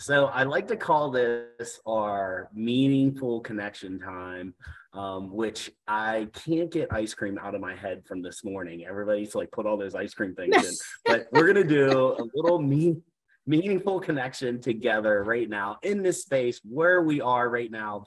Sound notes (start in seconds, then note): 10.4 laughing